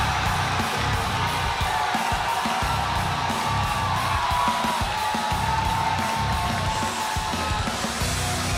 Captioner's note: crowd cheering